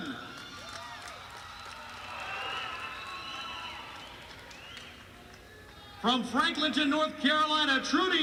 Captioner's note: crowd cheering